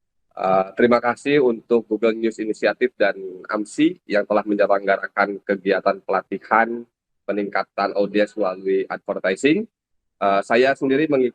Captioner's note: speaking indonesian